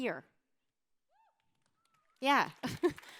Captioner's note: cheers